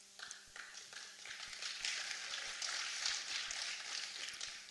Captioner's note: applause